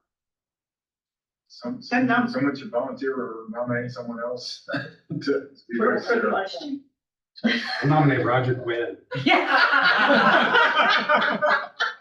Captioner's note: laughing